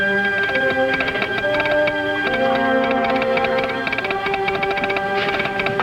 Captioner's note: pensive orchestral music; telegraph tapping